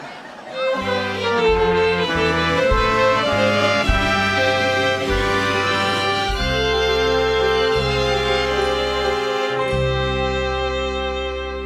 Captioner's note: ambulance siren wails